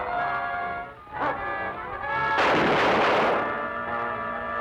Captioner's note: guns firing